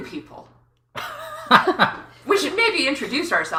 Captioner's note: laughs